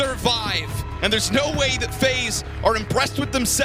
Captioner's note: crowd cheering